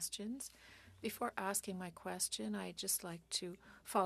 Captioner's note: speaking French